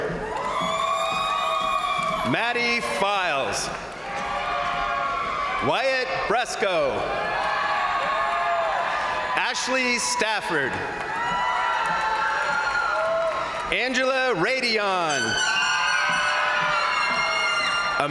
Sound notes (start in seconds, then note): 0.0 crowd applauding; 0.1 crowd cheering; 3.2 crowd applauding; 3.6 crowd cheering; 7.1 crowd applauding; 7.1 crowd cheering; 11.0 crowd applauding; 11.0 crowd cheering; 15.1 crowd applauding; 15.1 crowd cheering